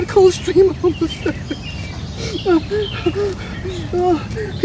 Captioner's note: sobbing